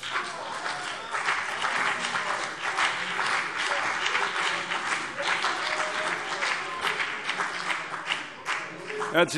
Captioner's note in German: Beifall CDU und BÜNDNIS 90/DIE GRÜNEN